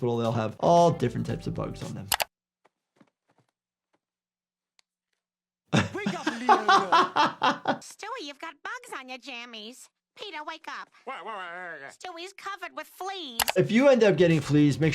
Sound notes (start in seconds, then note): 5.7 laughs